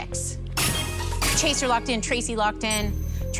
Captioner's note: chime, chime